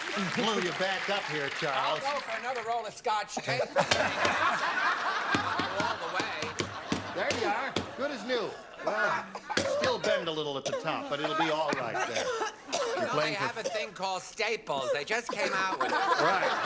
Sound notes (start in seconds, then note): 5.9 laughter